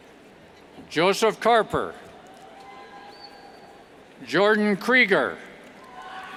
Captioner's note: cheers